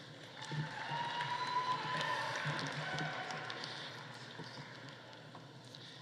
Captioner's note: audience applauding; audience cheering